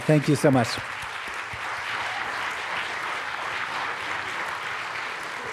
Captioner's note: applause